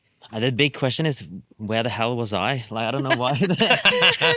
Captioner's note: laughing